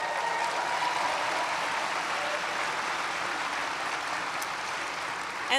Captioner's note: applause